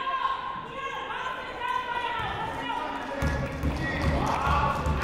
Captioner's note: people shouting in the crowd